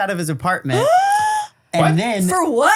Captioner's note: gasps